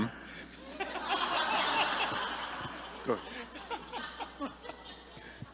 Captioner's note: audience laughing